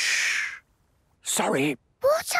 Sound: whispering; quietly

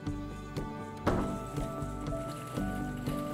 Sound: slam

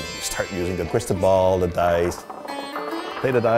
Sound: dice clatter

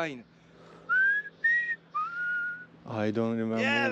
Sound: whistles

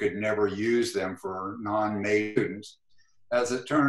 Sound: glitch

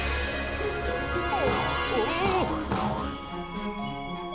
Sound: grunting

